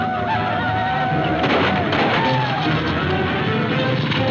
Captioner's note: tense music; gunfire pops